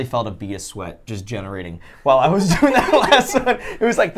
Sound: laughs

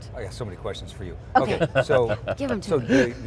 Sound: laughs

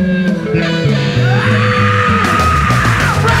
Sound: wails

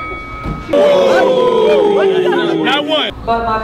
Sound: Boxing bell sound; crowd jeering

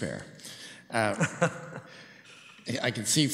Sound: chuckles

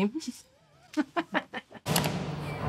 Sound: laughs

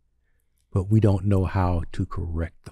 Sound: none

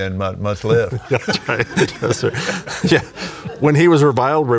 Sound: laughing

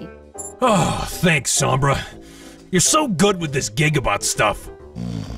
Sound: relieved sigh

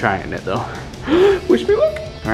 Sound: gasping

